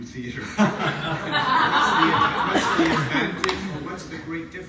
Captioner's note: audience laughs